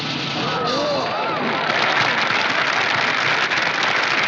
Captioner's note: cymbal Crash; applause